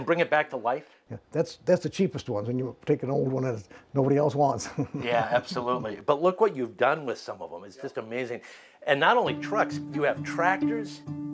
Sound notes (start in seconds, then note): 4.6 laughs; 11.1 reflective music